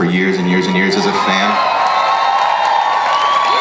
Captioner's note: loud audience applause